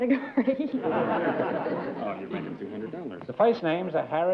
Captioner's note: laughter